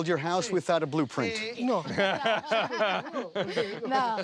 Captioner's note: laughter